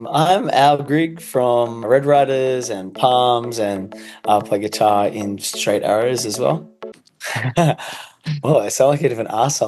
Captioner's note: laughs